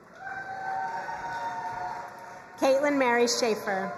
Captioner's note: crowd cheering and applauding